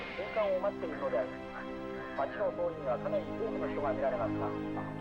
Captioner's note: distant TV chatting